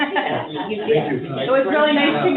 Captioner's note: all chuckling